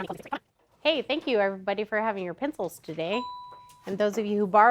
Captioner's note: ding